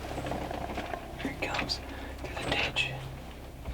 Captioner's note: whispering